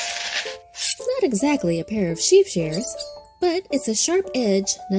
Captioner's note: dirt scraping; shears slashing